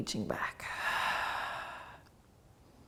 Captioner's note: exhaling